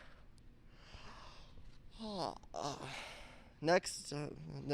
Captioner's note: yawn